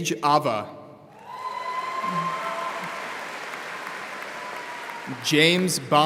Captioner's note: audience applauding